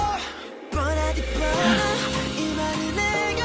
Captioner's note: gasp